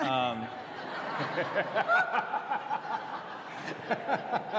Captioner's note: laughter